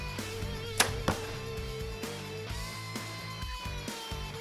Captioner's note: bowstring thuds